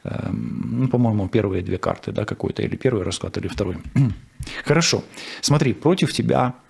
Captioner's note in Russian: откашливается